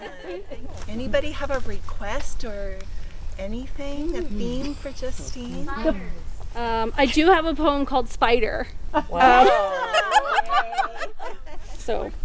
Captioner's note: group laughing